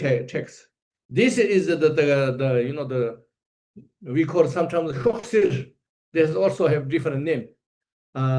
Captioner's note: tibetan